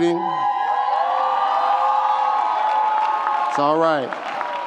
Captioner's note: audience cheers